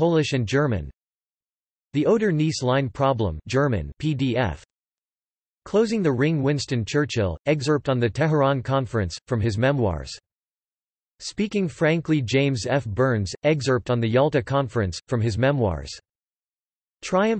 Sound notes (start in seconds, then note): 3.9 German